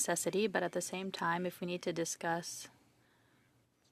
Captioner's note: speaking French